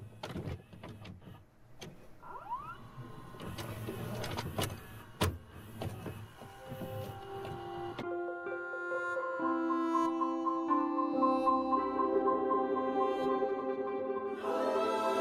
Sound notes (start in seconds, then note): 2.8 film rolling; 6.7 gentle nostalgic music